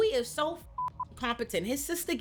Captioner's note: beep